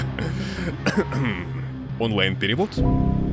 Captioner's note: coughing